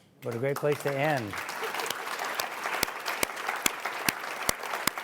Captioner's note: applause